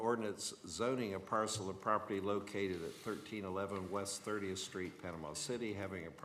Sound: none

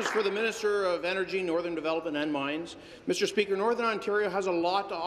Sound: applause

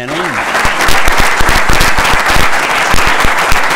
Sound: applause

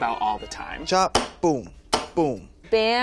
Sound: chopping

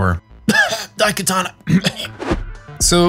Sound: cough

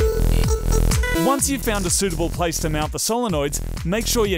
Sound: voice over

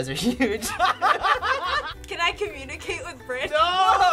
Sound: laugh

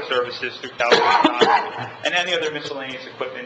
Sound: man coughing

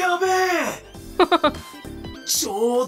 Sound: chuckles

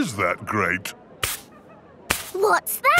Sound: brushing

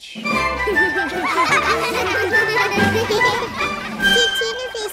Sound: laughing

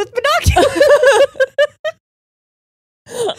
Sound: both laughing

